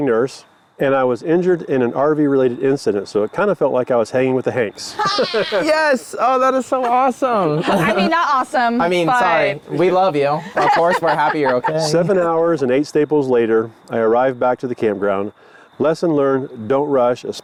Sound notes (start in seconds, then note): 4.8 group laughs